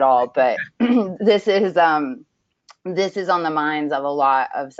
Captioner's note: clears throat